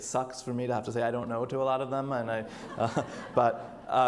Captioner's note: audience laughs